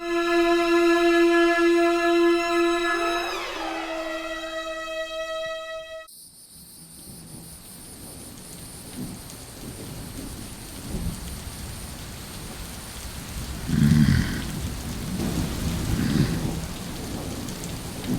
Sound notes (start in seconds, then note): 0.0 eerie suspenseful music; 6.5 insects chittering; 9.2 rain pattering; 9.2 thunder rumbling; 13.6 Bigfoot growls and grunts